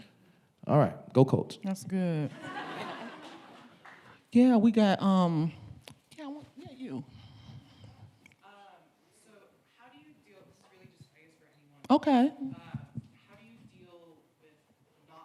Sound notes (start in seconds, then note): 2.3 audience laughing